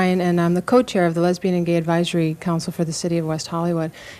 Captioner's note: none